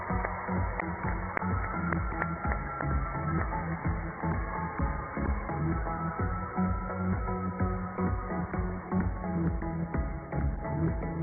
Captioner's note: cheers and applause